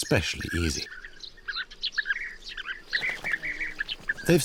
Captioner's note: birds squawking